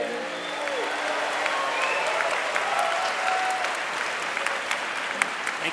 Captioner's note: audience clapping and cheering